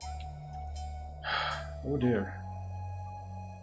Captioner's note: sighs